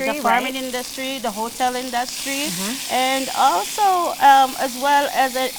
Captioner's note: chicken sizzles